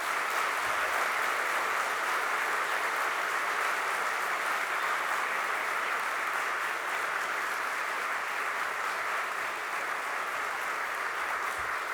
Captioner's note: applause